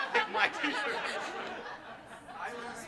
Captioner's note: laughter